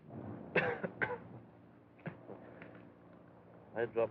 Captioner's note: coughing Continues